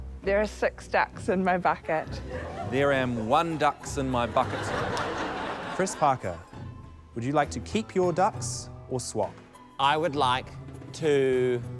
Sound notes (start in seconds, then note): 2.2 laughter; 4.2 laughter